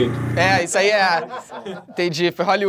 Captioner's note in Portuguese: risadas